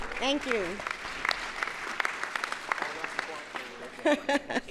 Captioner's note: audience applauds